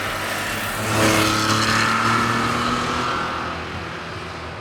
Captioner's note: car revving